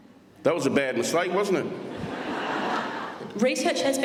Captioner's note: crowd laughs